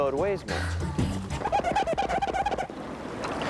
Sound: squeaking

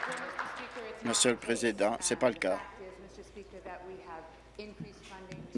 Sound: applause

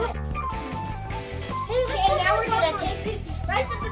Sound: laughs

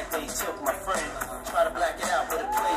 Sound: applause

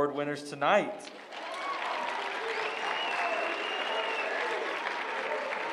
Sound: applause

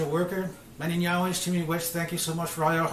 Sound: speaking Mohawk

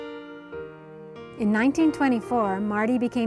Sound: voiceover

